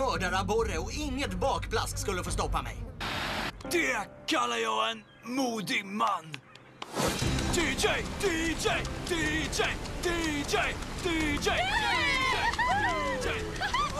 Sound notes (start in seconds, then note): 11.1 cheering